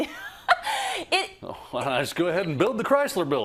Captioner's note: laugh